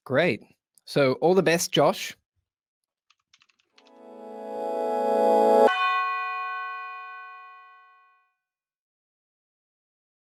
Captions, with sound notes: - Great. So all the best, Josh. (bell rings)